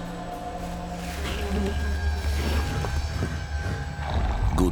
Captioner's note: buzzing insects